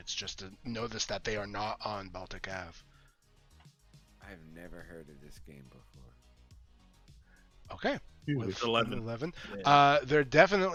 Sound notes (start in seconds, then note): 5.4 mumbling